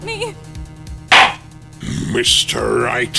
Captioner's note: gavel slams!